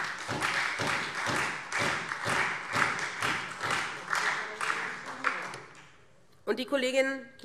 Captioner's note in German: Beifall SPD und Freie Demokraten